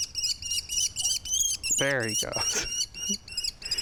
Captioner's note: kestrel keeing